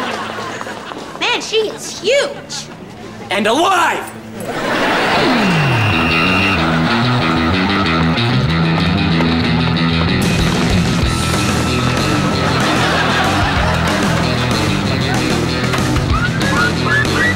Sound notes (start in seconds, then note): 6.2 blows whistle